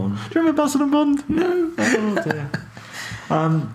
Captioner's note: laughing; laughing